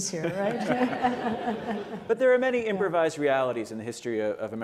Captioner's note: laughter